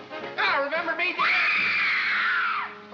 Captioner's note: screaming